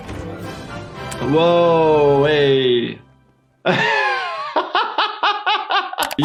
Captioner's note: laughs